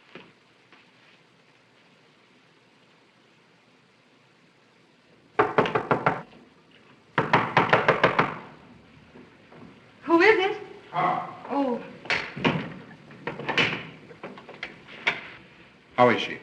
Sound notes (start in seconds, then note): 5.4 knock on door